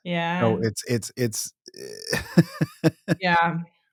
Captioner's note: laughing